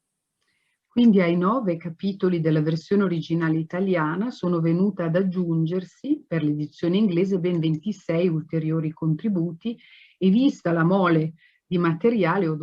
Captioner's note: speaking Italian